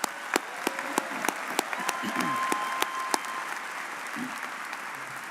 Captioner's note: audience cheering and applauding